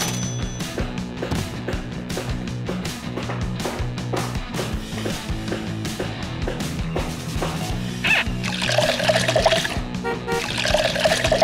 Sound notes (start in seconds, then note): 0.2 hammering; 8.0 duck squeak; 8.2 water pouring; 9.7 horn honking; 10.3 water pouring